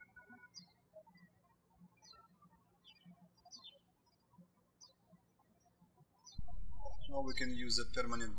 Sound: birds chirping

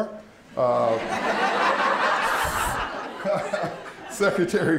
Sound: laughter

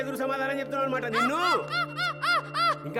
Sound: Lucky screaming

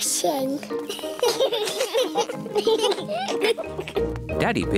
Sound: children giggling

